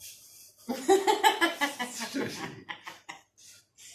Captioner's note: laughter